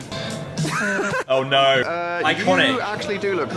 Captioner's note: young laugh